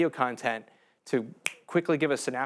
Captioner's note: snaps finger